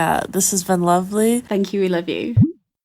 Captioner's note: bloop sound